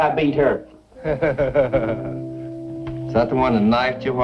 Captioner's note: chuckling